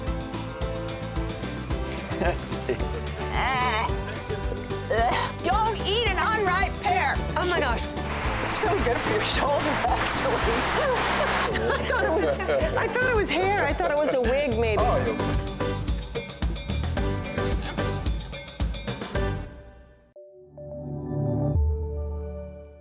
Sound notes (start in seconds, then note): 3.2 groaning; 10.0 laughter